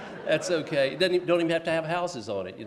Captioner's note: laughs